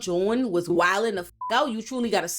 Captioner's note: beep